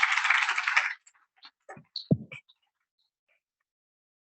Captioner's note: applause